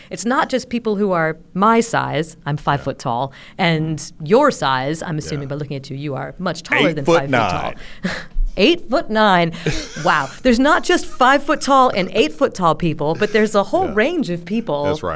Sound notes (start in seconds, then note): 9.5 chuckles